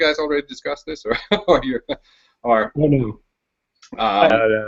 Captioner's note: chuckles